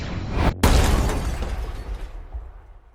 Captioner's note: boom!